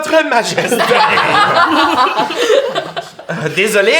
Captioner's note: the group bursts out laughing